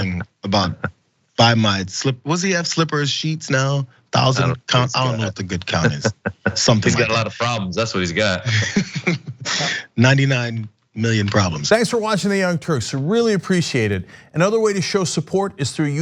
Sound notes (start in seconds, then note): 5.6 laugh